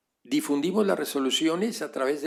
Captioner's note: spanish